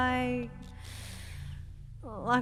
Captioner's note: Kaylee inhales